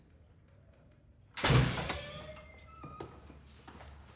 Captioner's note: door creaks